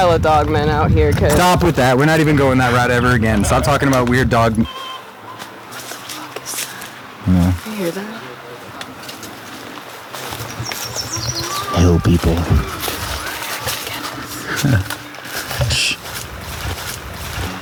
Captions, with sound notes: Stop that. We're not going that route ever again. Stop talking about weird... [signing in the distance] What the fuck is that? -I don't know. -Do you hear it? -Hell people. -[whispering] They could get us. [laughs] Shh!